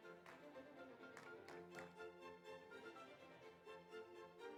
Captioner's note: audience applauds